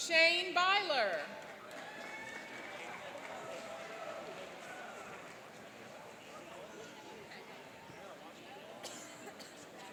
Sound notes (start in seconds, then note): 1.4 cheering and applauding